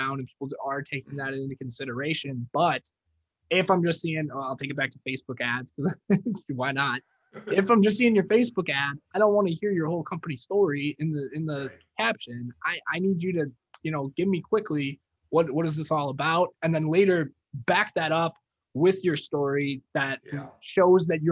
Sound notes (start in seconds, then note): 7.4 laughing